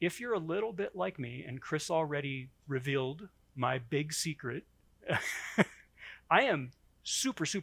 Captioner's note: chuckles